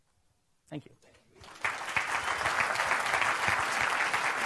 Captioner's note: applause